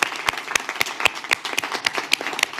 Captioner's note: applause